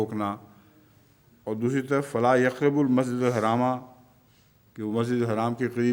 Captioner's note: Arabic